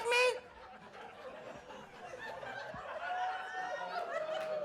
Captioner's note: audience laughs